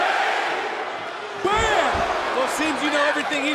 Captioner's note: crowd yells "new day"